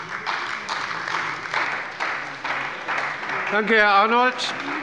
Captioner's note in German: Beifall bei der CDU und bei Abgeordneten der FDP